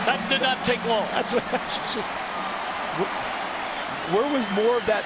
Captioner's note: stutters